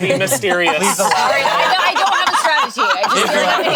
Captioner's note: group laughing